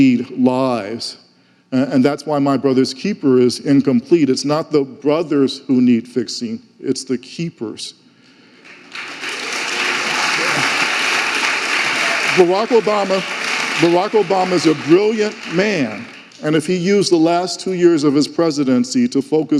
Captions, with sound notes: They need lives, and that's why My Brother's Keeper is incomplete. It's not the brothers who need fixing, it's the keepers. (audience applauding) Barack Obama's a brilliant man, and if he used the last two years of his presidency